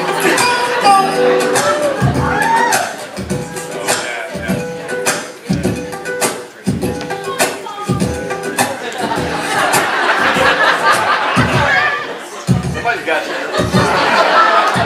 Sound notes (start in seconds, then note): 1.6 vocal percussion